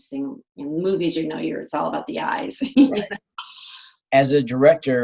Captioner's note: laughs